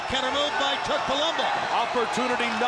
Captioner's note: crowd chatter